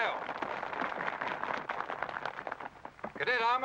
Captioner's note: applause